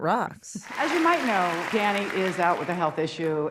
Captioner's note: crowd applauds